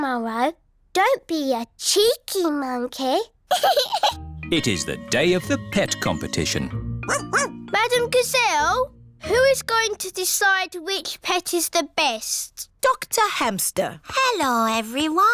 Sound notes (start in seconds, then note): 3.5 giggles; 7.1 barks